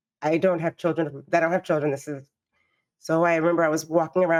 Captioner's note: none